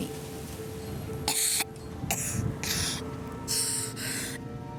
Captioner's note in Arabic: السعال